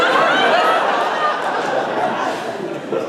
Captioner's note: laughter